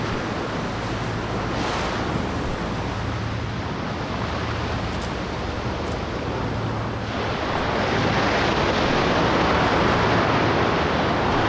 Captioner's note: waves crashing